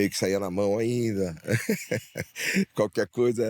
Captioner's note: laugh